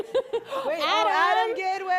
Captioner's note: laughs